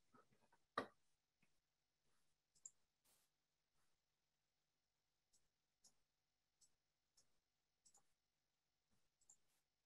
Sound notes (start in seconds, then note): 0.7 mouse clicks; 2.3 silence